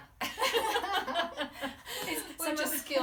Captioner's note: hearty laughing